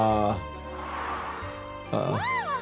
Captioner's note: mime exhales; Petunia laughs